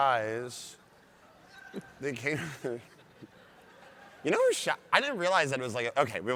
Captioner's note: audience laughs